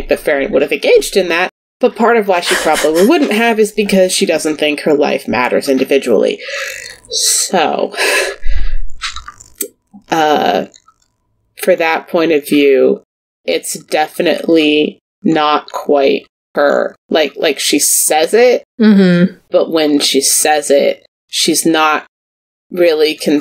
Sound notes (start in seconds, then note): 9.7 sighs